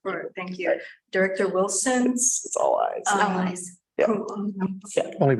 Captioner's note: many voices